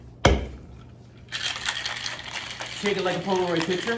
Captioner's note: glass clinking